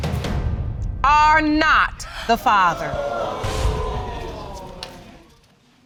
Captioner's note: audience exclaiming